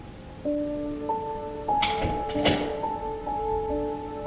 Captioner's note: doors banging